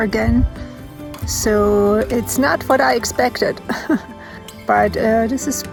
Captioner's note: laughs